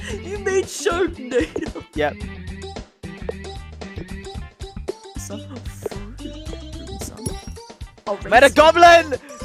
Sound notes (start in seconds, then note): 6.0 mumbles to herself